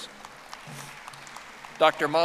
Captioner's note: audience applauding